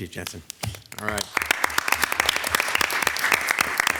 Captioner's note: applause